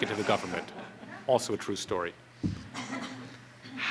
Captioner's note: audience laughter